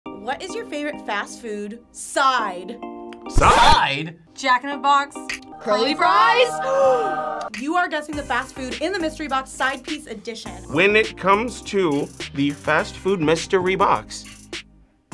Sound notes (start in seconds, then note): 5.4 angelic music; 6.6 gasps